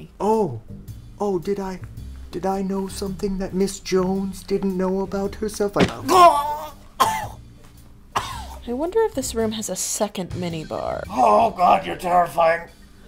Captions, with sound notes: Oh... Did I know something that Miss Jones didn't know about herself? I... (THWAP!) UGHH!! (cough, cough) I wonder if this room has a second mini-bar. Oh God you're terrifying.